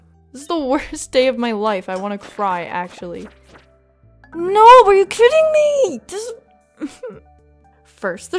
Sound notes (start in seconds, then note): 6.8 dejected sounds